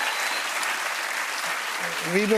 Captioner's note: cheers and applause